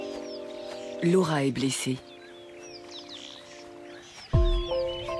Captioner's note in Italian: cinguettii; musica malinconica